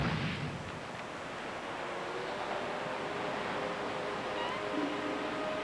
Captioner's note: explosion